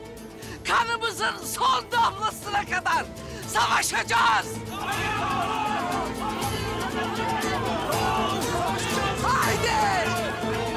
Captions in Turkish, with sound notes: ...kanımızın son damlasına kadar savaşacağız! (Hep bir ağızdan) Savaşacağız! Savaşacağız! Savaşacağız! Hadi!